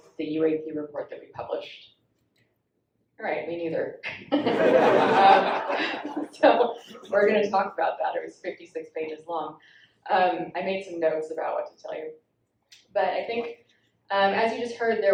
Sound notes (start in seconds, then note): 4.3 all laughing